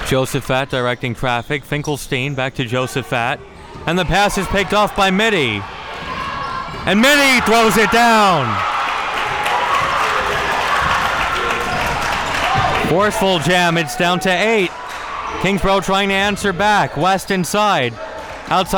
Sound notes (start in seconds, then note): 8.9 audience cheering and applauding